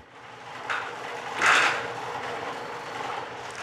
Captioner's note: clacking, whirring